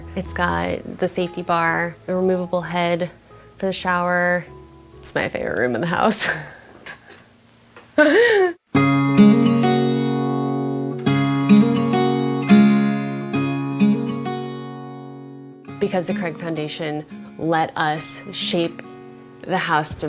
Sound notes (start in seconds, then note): 6.5 laughing; 9.4 light acoustic guitar music